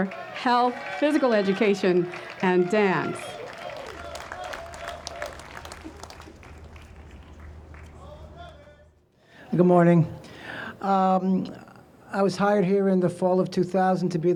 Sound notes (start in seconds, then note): 3.6 audience cheers